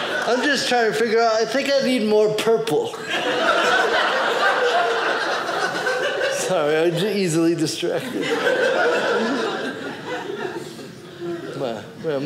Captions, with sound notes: I'm just trying to figure out. I think I need more purple. (audience laughing) Sorry, easily distracted. (audience laughing)